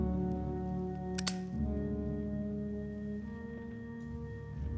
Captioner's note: lighter clicking; somber music